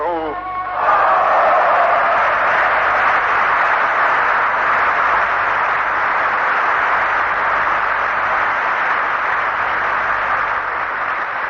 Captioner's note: applause